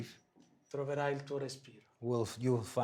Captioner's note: speaking foreign language